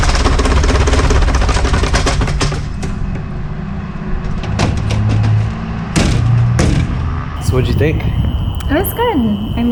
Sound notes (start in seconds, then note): 2.9 airplane engine stops